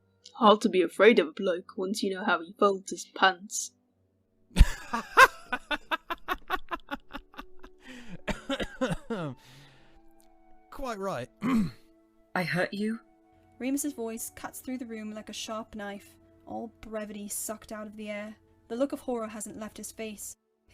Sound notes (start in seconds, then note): 4.6 Sirius loudly barks a laugh; 8.0 Sirius stifles his laugh with a cough